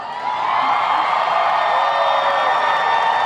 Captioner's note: applauding